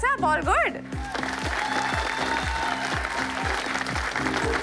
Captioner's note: Audience clapping